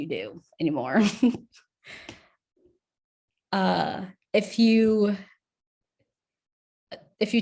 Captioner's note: chuckles